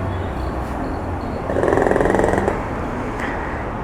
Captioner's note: traffic noise